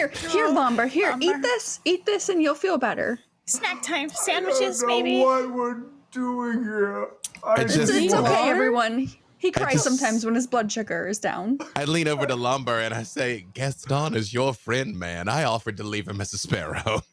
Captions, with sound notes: Here Lomber, eat this! Eat this and you'll feel better. Snack time sandwiches! I know not what we're doing here! (sobbing) He cries sometimes when his blood sugar is down, I lean over to the Lomber and I say, Gaston is your friend, man. I offered to leave him as a sparrow.